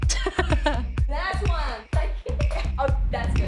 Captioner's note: laughs